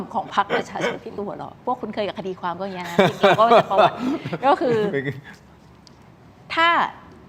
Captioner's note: laughs